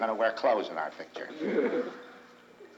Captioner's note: crowd chuckles